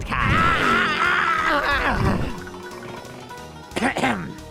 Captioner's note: vroooooooooooom